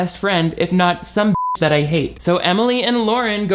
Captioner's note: beep